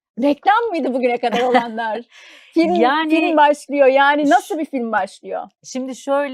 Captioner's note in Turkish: kahkaha